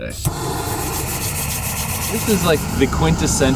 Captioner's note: gas hissing; hands rasping